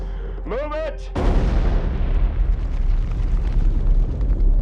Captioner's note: booming